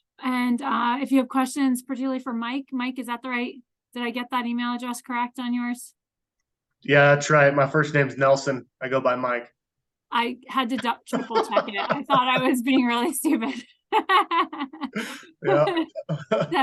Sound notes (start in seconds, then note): 10.7 laughs; 14.7 laughs